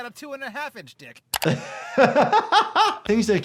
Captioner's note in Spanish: riendo; risas